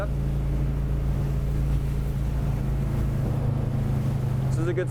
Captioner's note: engine revving